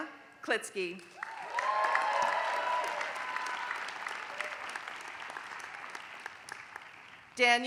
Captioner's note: applause